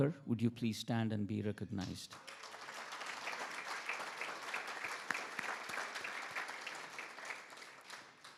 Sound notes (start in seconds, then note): 2.1 attendees applauding